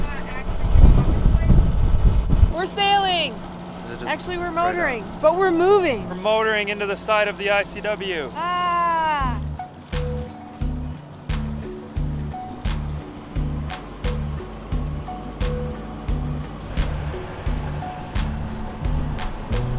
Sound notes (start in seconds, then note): 1.1 boat motor running drowning out voice; 10.5 upbeat music